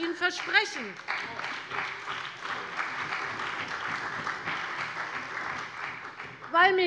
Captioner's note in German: Beifall bei der CDU und dem BÜNDNIS 90/DIE GRÜNEN